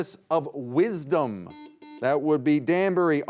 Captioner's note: buzzer beeping